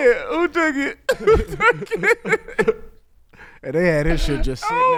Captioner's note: laughing